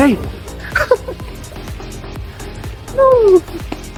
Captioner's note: giggles